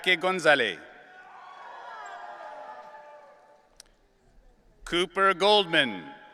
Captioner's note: audience cheering